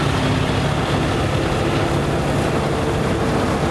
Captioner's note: truck humming